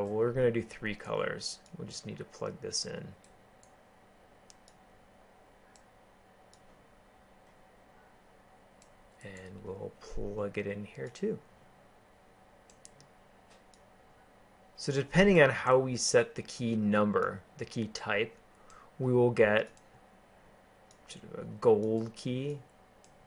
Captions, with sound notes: So we going to do three colors. We'll just need to plug this in. [ Keyboarding ] And we'll plug it in here too. [ Keyboarding ] So depending on how we set the key number; the key type, we will get gold key.